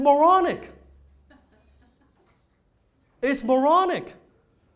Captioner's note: audience laughs quietly